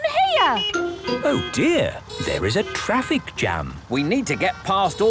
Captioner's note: honking; brakes screeching